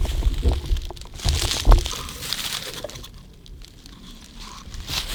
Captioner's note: leaves rustling